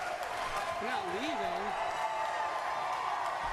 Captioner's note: applause